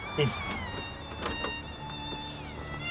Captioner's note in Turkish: Kapı Açılıyor